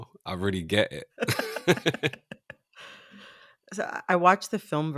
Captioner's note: laughter